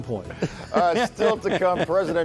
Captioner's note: laughter